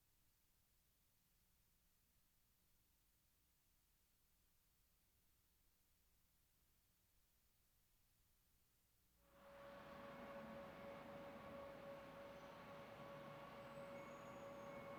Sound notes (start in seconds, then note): none